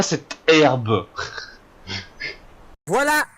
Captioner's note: giggle